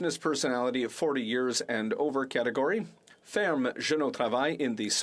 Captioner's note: speaking French